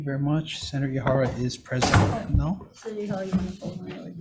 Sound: door slamming

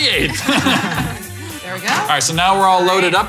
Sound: laughing

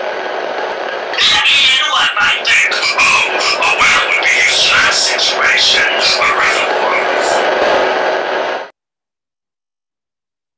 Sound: static

